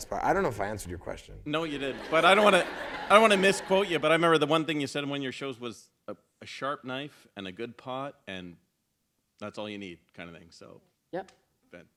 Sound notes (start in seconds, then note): 1.7 laughter